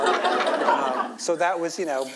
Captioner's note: audience laughs